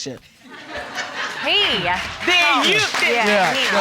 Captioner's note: audience laughing